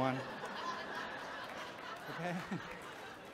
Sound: audience chuckles

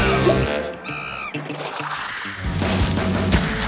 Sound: upbeat music; monkey screams; upbeat music

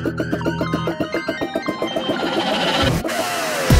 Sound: phone rings

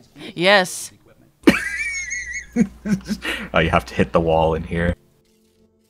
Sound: laughing

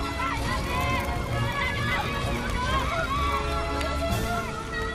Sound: clamoring

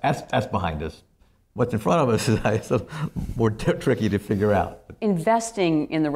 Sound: laughs

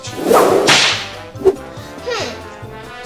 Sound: swooshing sound

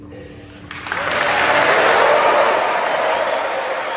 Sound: applause

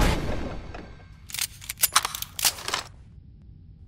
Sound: guns cocking

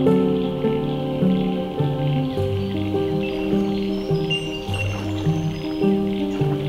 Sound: frogs, birds

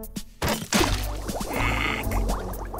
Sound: splash

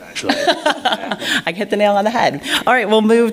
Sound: laughs

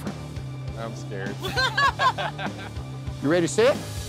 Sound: laughs

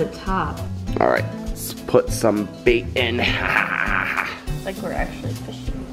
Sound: laughs

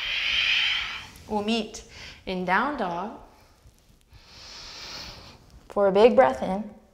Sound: deep breath; deep breath

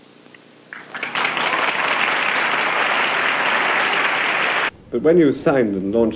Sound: applause

